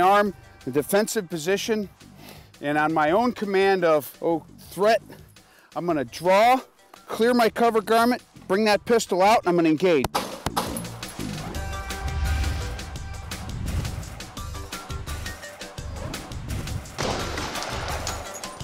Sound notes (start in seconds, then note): 10.0 gun fires twice; 16.9 gun shot